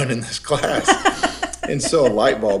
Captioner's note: laughs